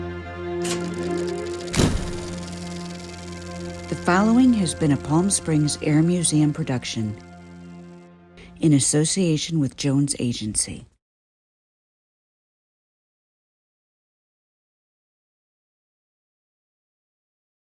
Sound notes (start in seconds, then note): 0.6 gate closes; 2.9 wheels reeling